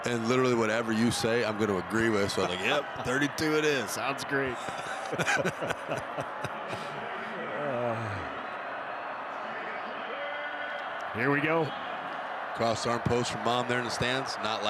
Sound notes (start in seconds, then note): 4.6 chuckle